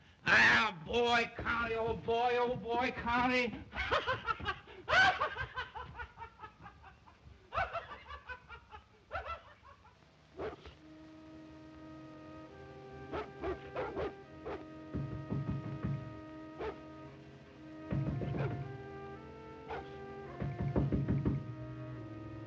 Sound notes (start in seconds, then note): 3.5 Martin laughs obnoxiously; 10.3 dog barks; 13.0 dogs bark; 14.8 knocking on door; 16.5 dog barks; 17.8 knocking on door; 19.6 dog barks; 20.2 knocking on door